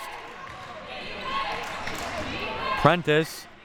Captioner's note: clapping